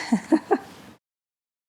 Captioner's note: laughs